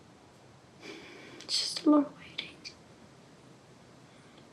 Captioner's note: exhales